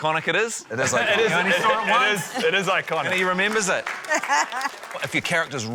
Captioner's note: laughs